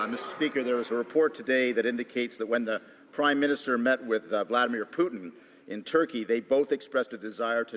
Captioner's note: some Applause